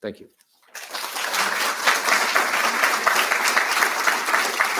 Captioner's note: audience applauding